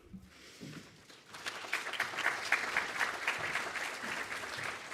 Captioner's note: audience clapping